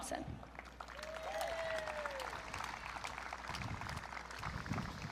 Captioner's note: audience cheering